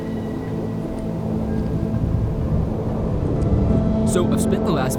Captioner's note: wind howling